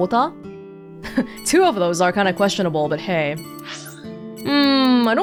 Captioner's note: chuckles